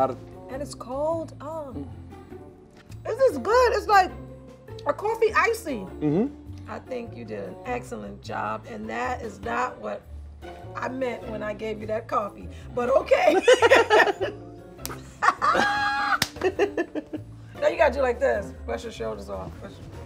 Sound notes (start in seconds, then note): 15.0 both laugh